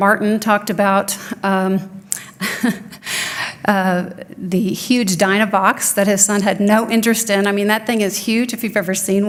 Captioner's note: chuckling